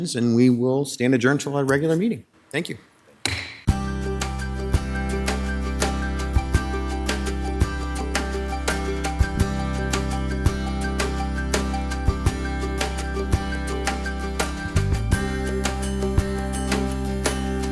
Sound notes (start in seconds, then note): 3.2 gavel banging; 4.2 upbeat music; 14.1 upbeat music continues